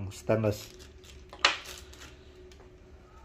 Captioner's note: plastic sound